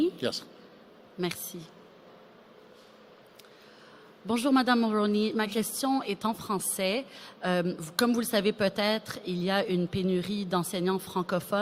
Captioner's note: speaking